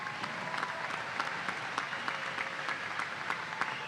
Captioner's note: applause